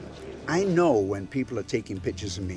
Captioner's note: crowd chatters